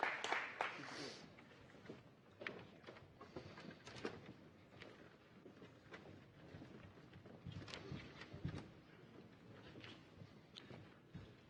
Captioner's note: applause